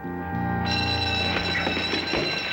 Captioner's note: school bell rings